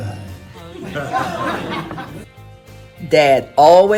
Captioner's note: laughter